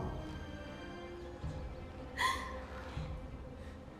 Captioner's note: crying